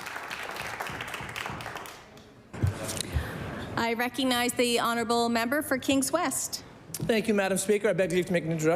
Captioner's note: applause